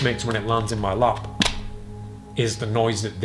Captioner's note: deck flapping